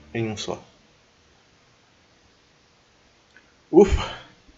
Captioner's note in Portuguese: Contemplative Silence